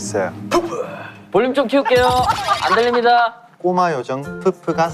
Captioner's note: laughing out loud